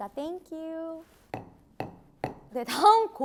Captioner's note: tap tap tap